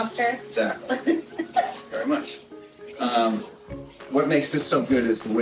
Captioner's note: laughter